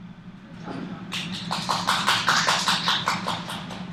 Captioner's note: applause